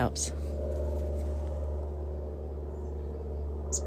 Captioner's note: super cub airplane noise fading away